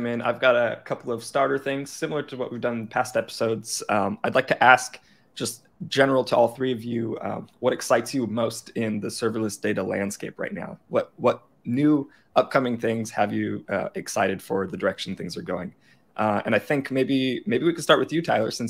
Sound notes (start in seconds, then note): none